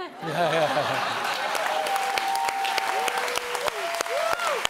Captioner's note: audience applauds